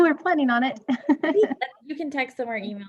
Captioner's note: chuckling